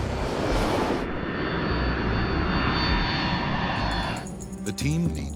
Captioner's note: engines scream